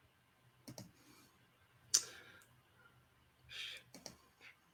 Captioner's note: computer key clicks